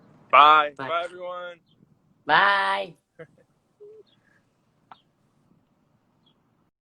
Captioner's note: laughs